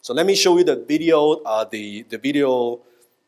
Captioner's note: none